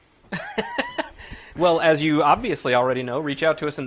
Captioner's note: laughs